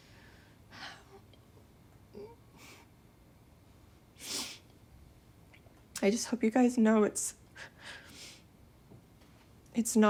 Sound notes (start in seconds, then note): 0.1 emotional sigh; 2.1 quiet sobbing; 7.9 quiet sobbing